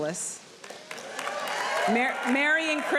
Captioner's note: audience applauding